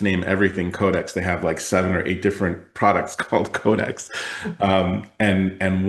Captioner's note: laughs